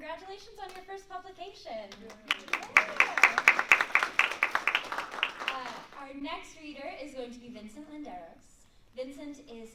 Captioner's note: applause